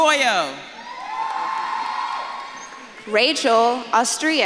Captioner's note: audience claps and cheers